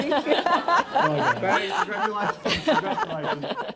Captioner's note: laughter